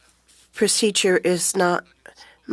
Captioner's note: speaking French